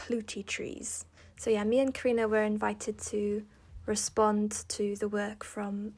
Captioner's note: in English